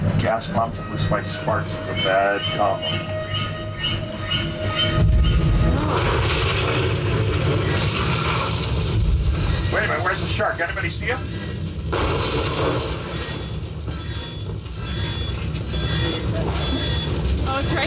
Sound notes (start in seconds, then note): 5.0 flames swooshing; 12.3 fire crackles; 14.2 siren ringing